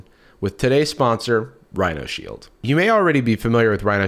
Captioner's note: none